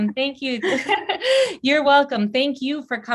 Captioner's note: laughing